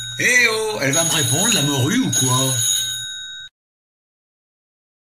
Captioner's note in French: Sonnerie téléphone